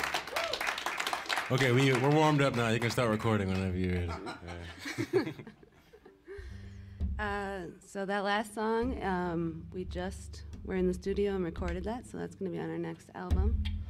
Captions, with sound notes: Ok, we're warmed up now. You can start recording... [audience laughs] - So that last song, we just were in the studio and recorded that. So that's going to be on our next album,